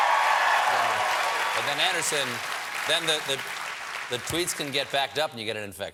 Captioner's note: cheers and applause